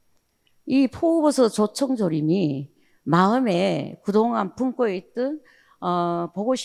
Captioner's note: speaking in foreign language